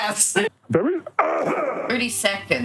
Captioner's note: grunt